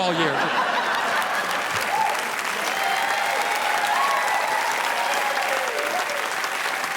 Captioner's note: audience laughing; audience applauding